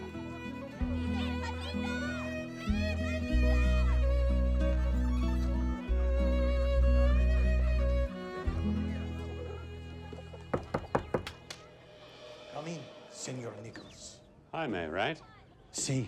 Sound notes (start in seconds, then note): 10.4 knocking; 13.4 latin music ends